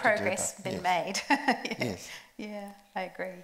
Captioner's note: laughs